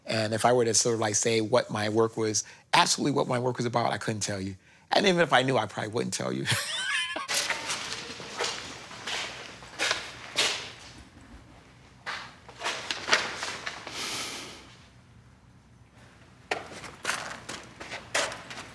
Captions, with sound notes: If I were to say what my work was--actually what my work was about--I couldn't tell you. Even if I knew, I probably wouldn't tell you. [laughs]